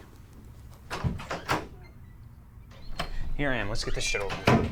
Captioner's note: door clicks